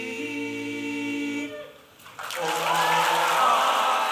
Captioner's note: applause